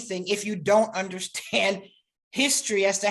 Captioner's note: chuckles